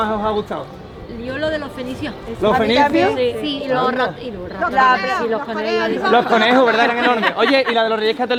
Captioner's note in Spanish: risas